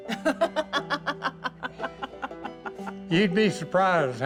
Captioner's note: laughs